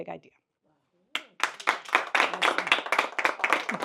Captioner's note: applause